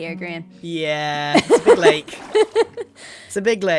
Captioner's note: laughs